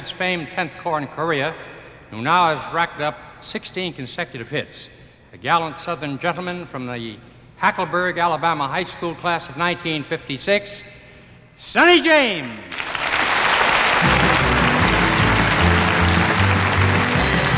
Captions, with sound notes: FAMED 10TH CORPS IN KOREA WHO NOW HAS RACKED UP 16 CONSECUTIVE HITS A GALLANT SOUTHERN GENTLEMAN FROM THE HACKLEBURG ALABAMA HIGH SCHOOL CLASS OF 1956 SONNY JAMES [AUDIENCE CLAPPING] [UPBEAT MUSIC]